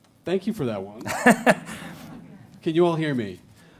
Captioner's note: laughing